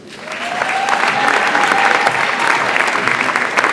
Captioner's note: audience applauds